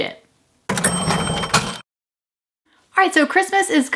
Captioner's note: cash register ring